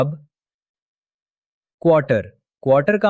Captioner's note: pause